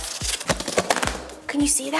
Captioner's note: tape tears